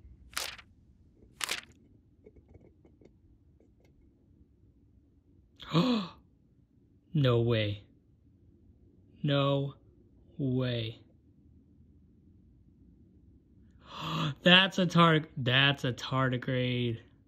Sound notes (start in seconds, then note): 1.2 plastic cup rustling; 1.2 page flip; 5.6 gasp; 11.0 awed silence; 13.8 gasp